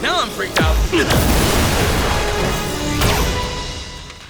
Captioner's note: blasting